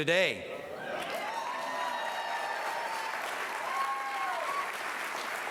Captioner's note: applause